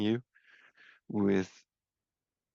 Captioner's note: speaking French